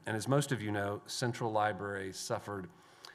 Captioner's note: none